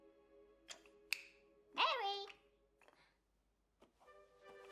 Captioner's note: clicks fingers